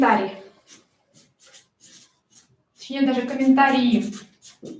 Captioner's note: скрежет маркера по бумаге